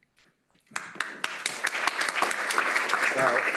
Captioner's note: applause